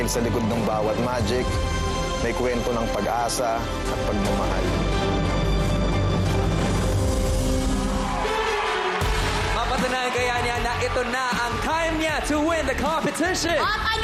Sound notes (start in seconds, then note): 5.2 dramatic music continues; 7.4 crowd cheering